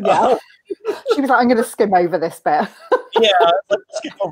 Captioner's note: laughs